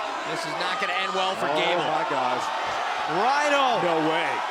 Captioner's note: crowd chatter